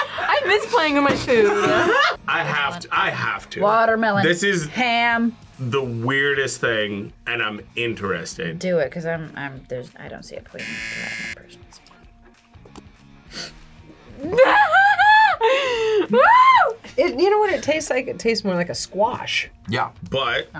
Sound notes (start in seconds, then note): 10.6 buzzer; 14.2 laughs